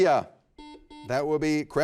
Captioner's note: buzzer beeping